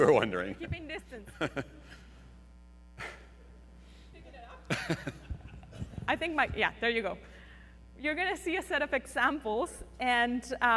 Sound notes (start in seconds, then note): 4.4 laughing